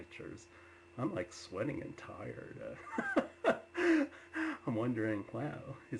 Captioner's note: laughs